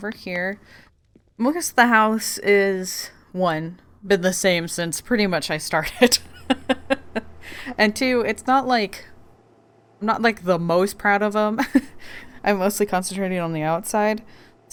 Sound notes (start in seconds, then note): 5.9 laughs